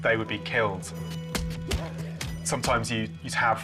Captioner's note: thudding sounds